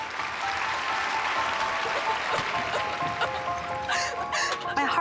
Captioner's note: sobbing